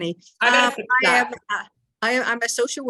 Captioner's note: crackling drowns out